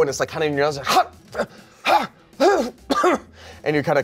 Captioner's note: sneezes and coughs